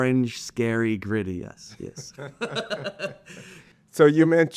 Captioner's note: both laughing